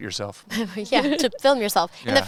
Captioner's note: laughs